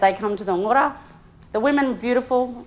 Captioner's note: speaks in foreign language